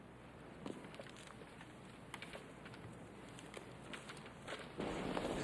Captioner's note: paper crackling